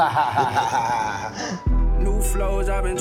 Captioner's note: both laugh